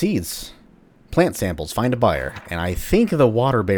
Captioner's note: journal closes